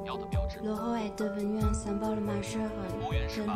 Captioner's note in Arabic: فرنسي